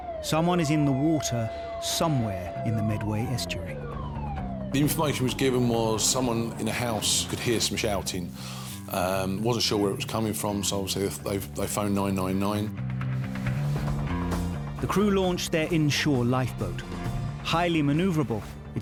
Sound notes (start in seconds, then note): 3.8 intense music; 3.8 siren wailing; 12.8 intense music